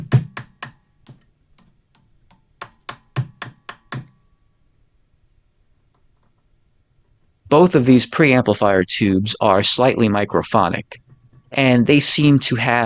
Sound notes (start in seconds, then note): 5.9 tapping Sound; 6.5 crackling Sound